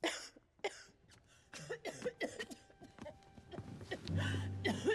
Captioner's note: coughing